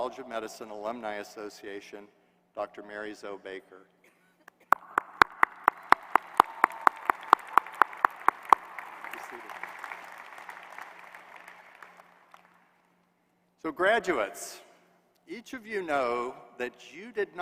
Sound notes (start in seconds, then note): 4.7 applause